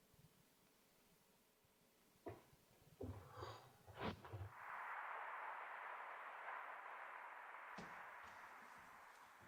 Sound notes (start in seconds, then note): 4.5 ocean waves crashing